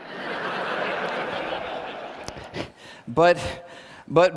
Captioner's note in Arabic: ضحك